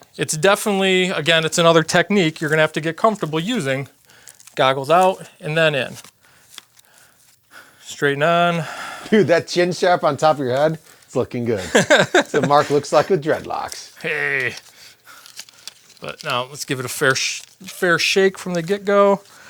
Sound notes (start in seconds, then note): 11.5 laughs